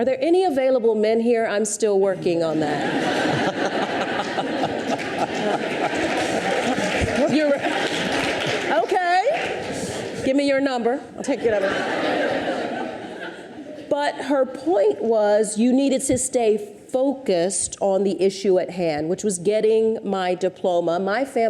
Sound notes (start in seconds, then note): 2.5 audience laughs; 5.4 audience applauds; 11.2 audience laughs